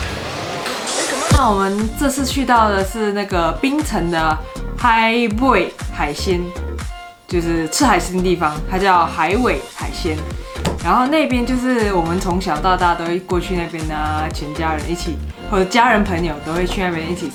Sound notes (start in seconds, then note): 4.8 hokkien dialect